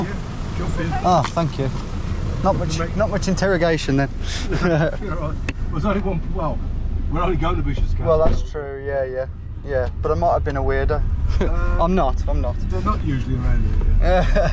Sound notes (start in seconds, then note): 4.3 laughs; 11.6 laughs; 14.0 laughs